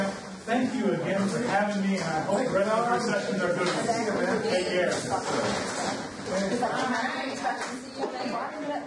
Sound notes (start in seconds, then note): 5.4 people chatter